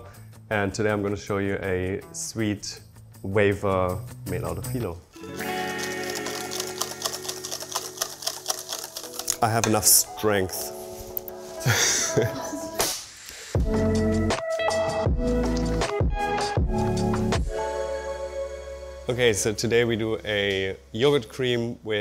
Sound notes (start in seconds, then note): 11.6 laughing; 13.5 upbeat music